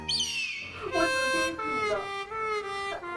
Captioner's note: hiss